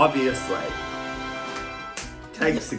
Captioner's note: applause